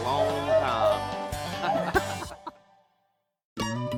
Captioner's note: laughs